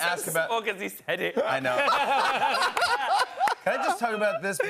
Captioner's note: laughter